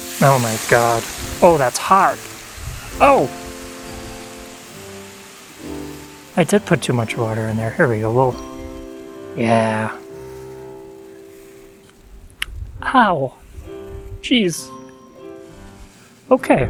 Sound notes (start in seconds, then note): none